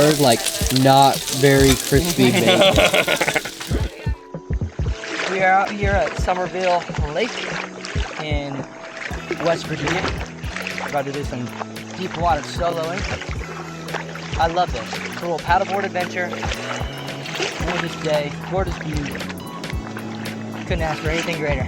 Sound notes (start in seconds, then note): 1.5 laughs genuinely; 4.5 cool music; 4.5 sound of loud waves